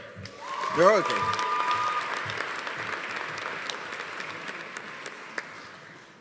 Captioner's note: audience applauding; audience cheering